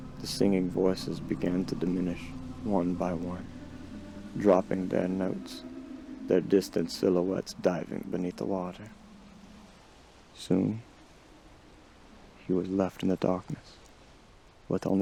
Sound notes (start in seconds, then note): 9.0 ocean waves